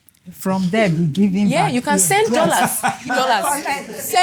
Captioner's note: laughs